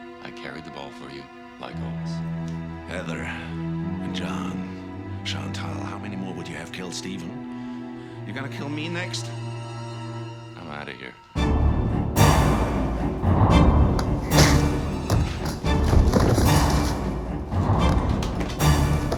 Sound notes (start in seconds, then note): 11.7 suspenseful orchestral music; 14.6 grunting